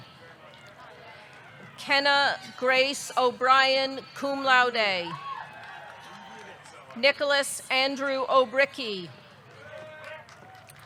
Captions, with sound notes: Kenna Grace O'Brien, cum laude. (audience cheering) (audience clapping) Nicholas Andrew Obrycki.